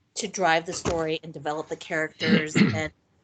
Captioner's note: clearing throat